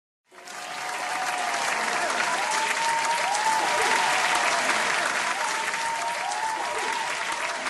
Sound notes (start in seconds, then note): 0.2 applause